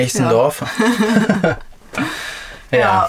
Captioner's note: laughing